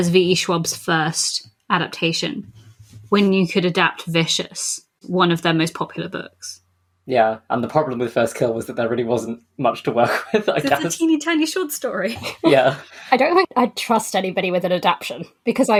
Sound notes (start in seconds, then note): 10.0 laughing; 12.0 laughing